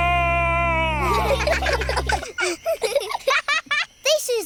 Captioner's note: children giggle